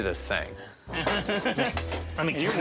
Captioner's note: chuckling